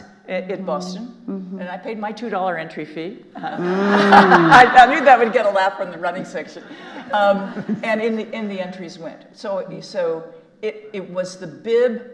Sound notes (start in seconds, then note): 3.5 audience laughing